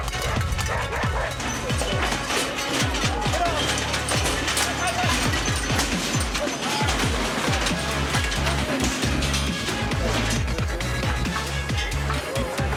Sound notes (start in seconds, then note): 0.0 dog barking; 3.3 gate crashing; 6.7 upbeat suspenseful music; 7.4 audience cheering